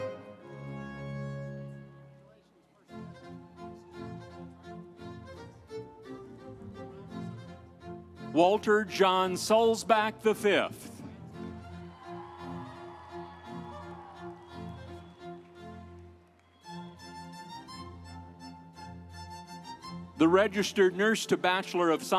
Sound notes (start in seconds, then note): 0.0 instrumental music; 11.7 audience cheering; 16.6 instrumental music